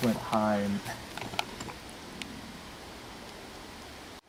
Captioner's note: wood taps